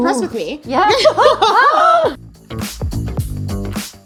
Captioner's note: both laugh; upbeat music